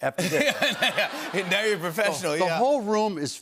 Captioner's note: laughter